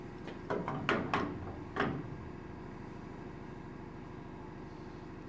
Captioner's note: clanking noise